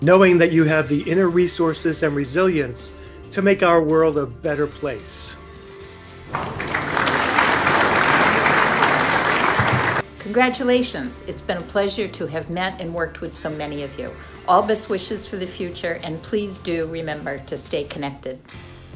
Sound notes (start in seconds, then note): 6.3 applaue